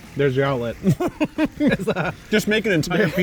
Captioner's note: laughing